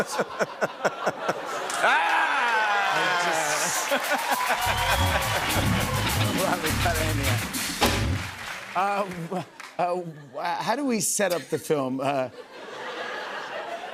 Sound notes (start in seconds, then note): 0.0 laughter; 3.9 cheers and applause; 11.3 laughter